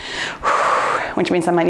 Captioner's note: exhales softly